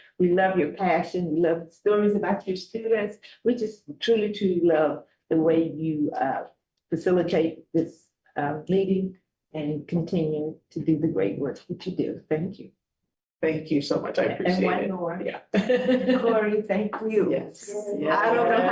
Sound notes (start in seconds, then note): 15.6 chuckles